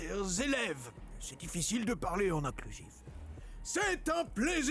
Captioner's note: in french